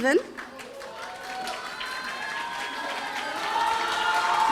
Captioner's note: audience applauding; audience cheering